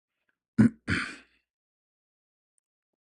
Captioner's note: membersihkan tekak dan batuk